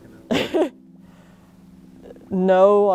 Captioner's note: laughs